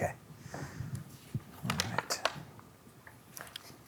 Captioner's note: pages rustling